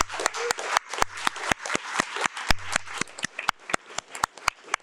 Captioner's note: audience applauding